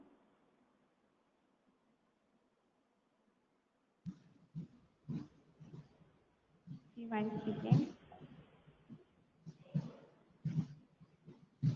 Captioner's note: no audible response